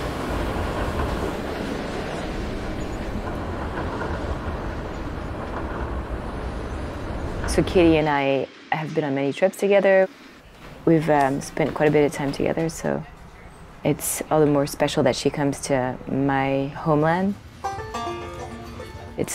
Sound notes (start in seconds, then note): 0.0 train screeching; 0.3 train rumbling; 17.6 cheerful music